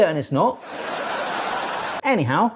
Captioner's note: audience laughing